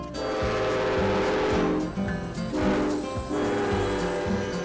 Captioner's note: train whistle blasting